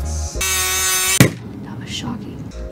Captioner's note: electric saw buzzing